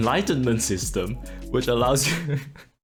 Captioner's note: struggling to hold in laughter